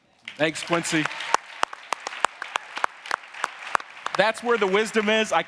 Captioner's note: audience applauding